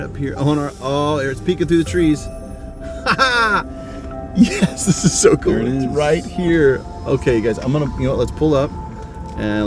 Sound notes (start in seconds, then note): 3.0 laughing